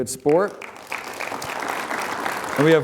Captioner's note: applause